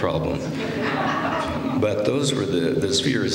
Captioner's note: laughter